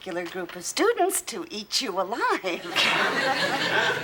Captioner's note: chuckles